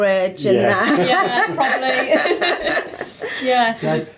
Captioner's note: all laugh